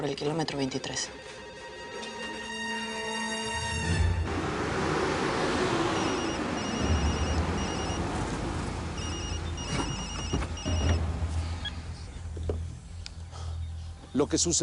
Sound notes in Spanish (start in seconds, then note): 4.9 Sonido del carro; 5.9 Suena el celular